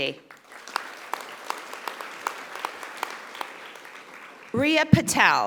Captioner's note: audience applauding